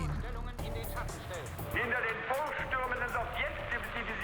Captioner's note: German dialogue